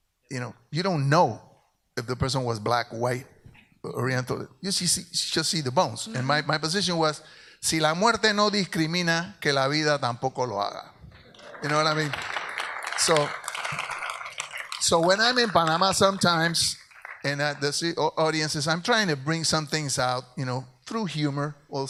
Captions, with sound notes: You don't know if the person was black, white, Oriental. You just see the bones, and my position was (speaks in Spanish) (audience applauds) So when I'm in Panama sometimes and the audiences. I'm tryna bring somethings out through humor also.